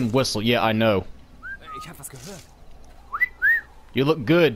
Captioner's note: whistle